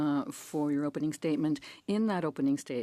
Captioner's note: speaking French